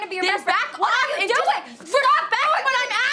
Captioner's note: Ashley shouting